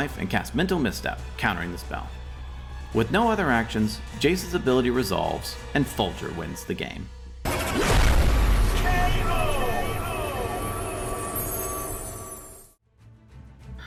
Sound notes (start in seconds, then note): 7.5 violent smashing